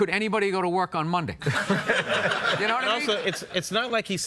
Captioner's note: audience laughs